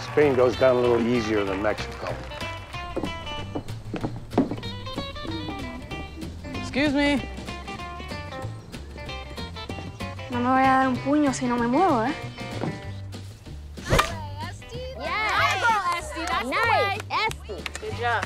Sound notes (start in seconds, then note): 2.9 upbeat music; 8.3 upbeat music; 10.2 Esti speaks in Spanish